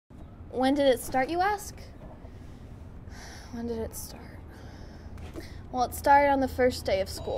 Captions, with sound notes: when did it start you ask? [sigh] when did it start? well it started on the first day of school.